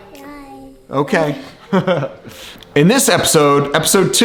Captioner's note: laughs